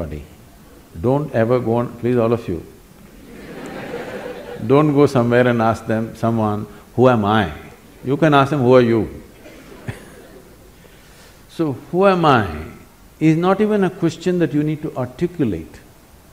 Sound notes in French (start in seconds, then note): 3.1 rire; 9.4 rires